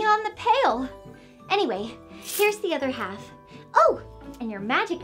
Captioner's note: coins clinking